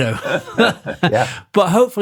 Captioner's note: both laughing